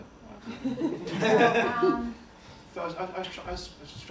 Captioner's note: laughter